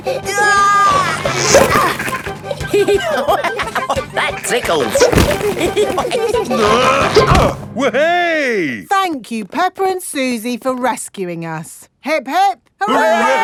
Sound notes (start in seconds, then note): 1.1 giggling; 2.9 laughing; 5.7 all giggling; 6.4 grunting